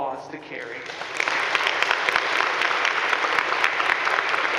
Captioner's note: audience clapping